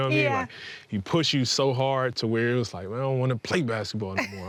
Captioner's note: laughing